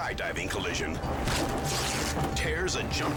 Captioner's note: parachute rips